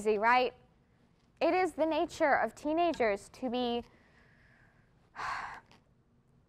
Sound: sighs

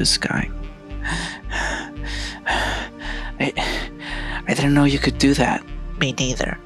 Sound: out of breath

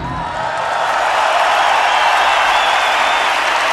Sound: cheering

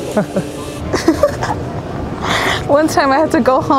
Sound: man chuckles; laughs

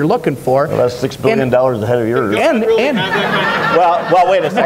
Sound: audience laughs

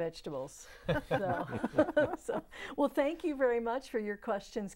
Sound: laughing

